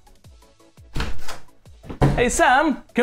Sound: door opening

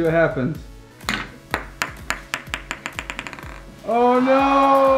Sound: ball clacks; disappointed crowd

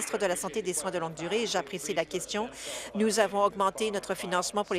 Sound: applause

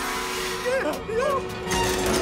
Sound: shrieking

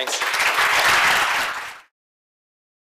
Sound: applause

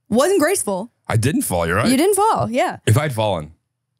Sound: laughs

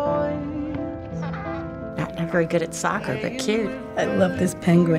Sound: penguin squawks

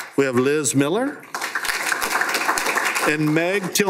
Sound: applause

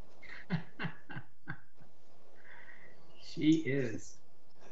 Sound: laughs

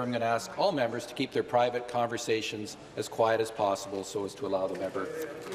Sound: some Applause

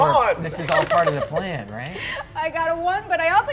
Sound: dice rolling

